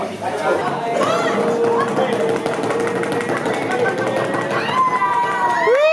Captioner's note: clink; people making drum roll; cheering and clapping